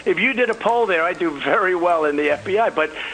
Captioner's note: laughing